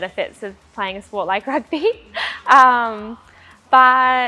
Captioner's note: chuckles